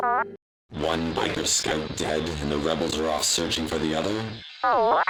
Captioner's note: transmission Voice